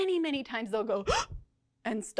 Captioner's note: gasps